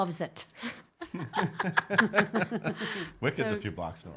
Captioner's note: laughing